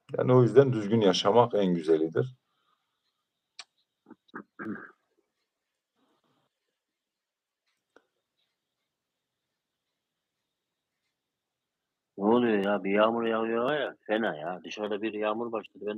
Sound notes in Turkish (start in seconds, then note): 4.1 boğazını temizler